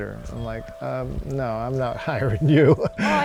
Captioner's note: laughs